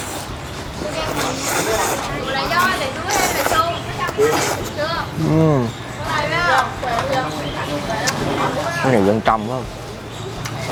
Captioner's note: slurping